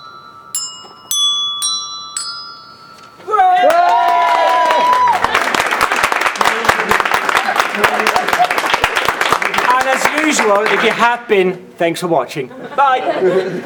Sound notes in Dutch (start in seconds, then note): 3.2 gejuich; 3.6 applaus